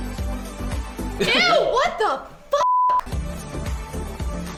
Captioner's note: upbeat music; beep; upbeat music